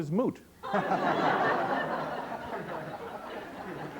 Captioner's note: laughter